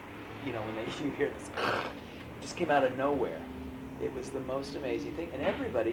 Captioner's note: makes grinding sound